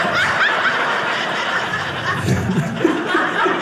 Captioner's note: audience laughing